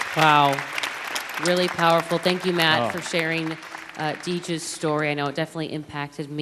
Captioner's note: applause